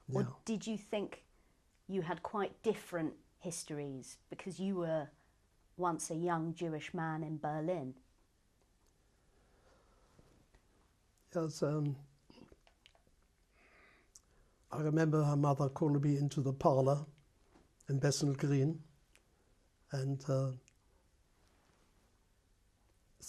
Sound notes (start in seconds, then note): 12.6 pauses for 3 seconds; 20.4 pauses for 3 seconds